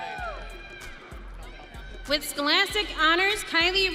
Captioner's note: audience cheering